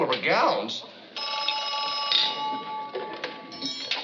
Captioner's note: phone rings